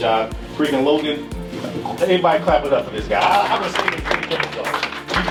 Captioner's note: clapping